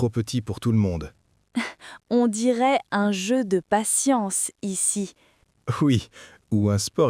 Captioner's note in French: rire